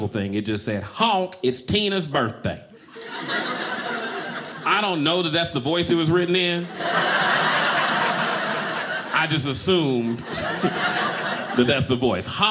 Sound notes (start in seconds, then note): 2.8 audience laughing